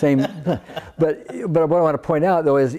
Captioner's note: laughs